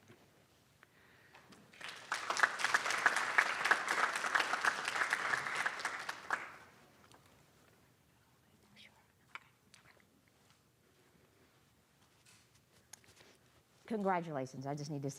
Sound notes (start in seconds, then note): 4.4 applause